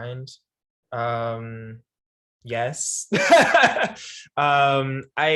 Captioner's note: laughs